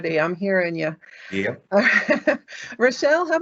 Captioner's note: chuckling